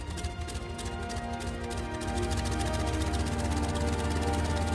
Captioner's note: engine turns over